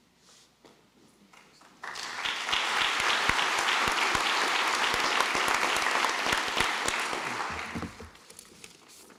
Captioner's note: applause